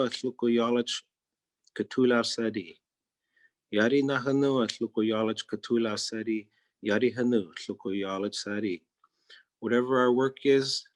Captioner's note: speaking in Native Language